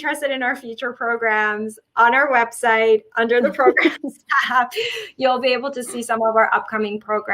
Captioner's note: chuckle